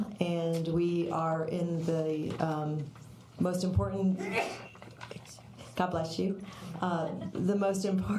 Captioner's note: sneeze